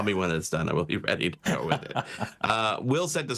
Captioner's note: laughing